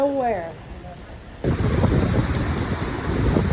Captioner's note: rain